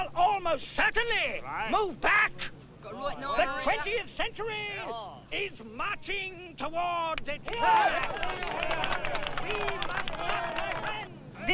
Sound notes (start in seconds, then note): 7.4 applause